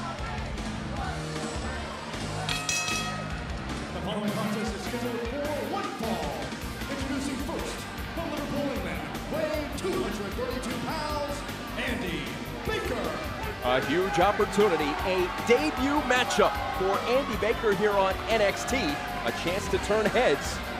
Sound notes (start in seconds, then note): 0.0 crowd cheering; 2.4 bell ringing